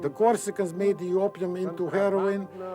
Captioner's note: speaks in foreign language